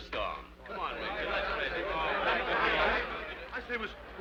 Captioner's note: people chattering